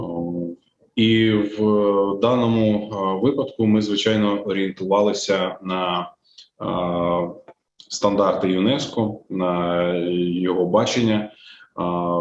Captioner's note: foreign Language Spoken